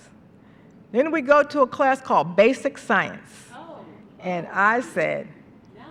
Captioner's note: ohs